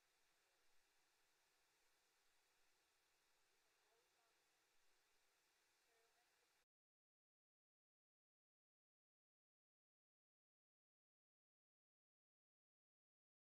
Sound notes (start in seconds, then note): none